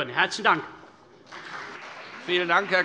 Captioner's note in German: Beifall CDU und BÜNDNIS 90/DIE GRÜNEN